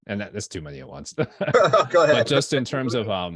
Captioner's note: chucking